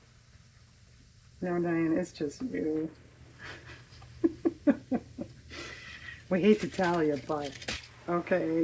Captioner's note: laughs